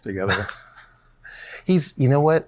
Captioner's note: chuckles